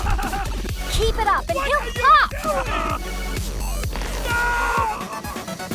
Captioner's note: murmurs